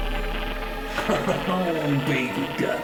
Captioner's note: Heath laughs